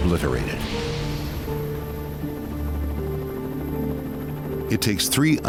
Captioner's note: helicopter engine roaring; sinister music